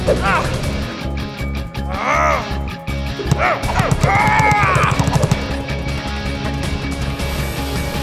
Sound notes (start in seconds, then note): 3.2 Shakes grunting